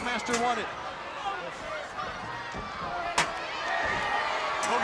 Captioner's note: crowd yelling